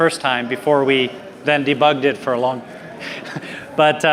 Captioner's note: laughs